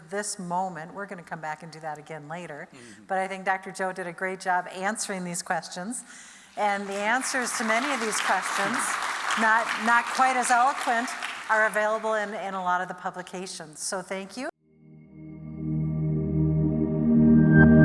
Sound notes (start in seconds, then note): 6.7 audience applauding; 14.8 gentle music